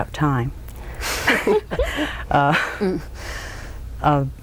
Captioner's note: laughter